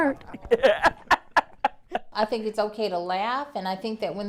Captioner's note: laughing